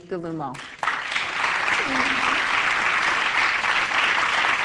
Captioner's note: audience clapping